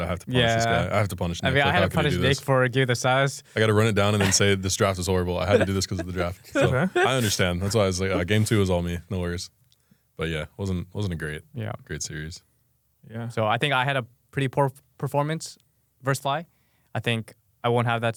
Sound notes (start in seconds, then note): 3.6 laughs